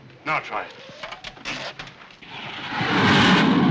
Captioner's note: machine whirring